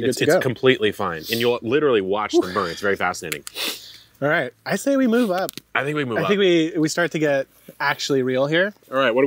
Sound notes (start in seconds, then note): 3.5 sniffs